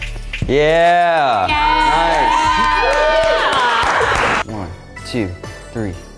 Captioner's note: aerialists cheering